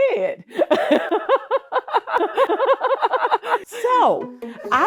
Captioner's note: laughing